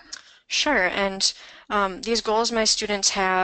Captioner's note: voiceover